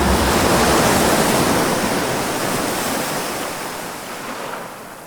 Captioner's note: airplane engine whirring; waves crashing